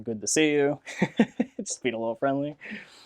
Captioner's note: laughs